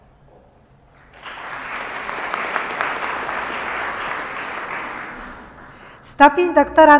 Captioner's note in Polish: oklaski